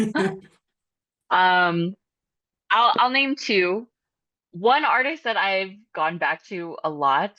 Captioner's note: chuckles